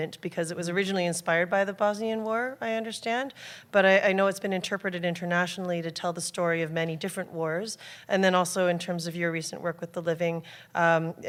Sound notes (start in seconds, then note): none